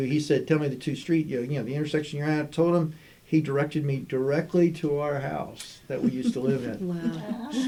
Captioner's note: wow/laughter